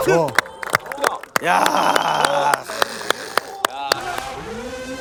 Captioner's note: smiles / Start clapping already